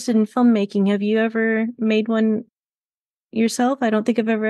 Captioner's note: none